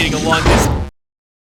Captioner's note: thunk